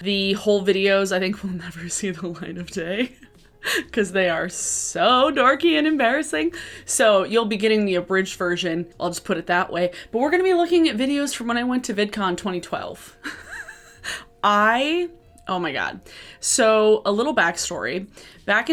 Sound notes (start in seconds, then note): 13.2 laughing